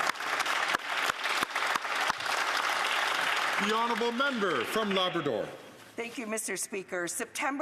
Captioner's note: some Applause